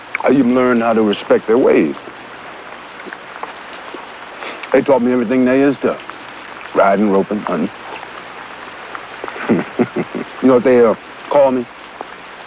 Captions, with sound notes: I even learned how to respect their ways. (sniffs) They told me everything they is to ridin', ropin', huntin'. (chuckles) You know what they'd call me?